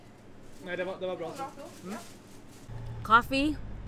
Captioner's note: people speaking Swedish